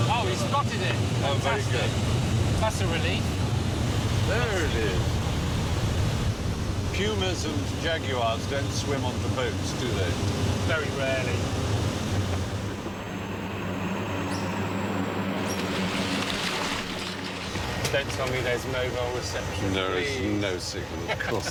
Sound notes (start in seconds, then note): 13.6 plane whirring; 15.3 water splashing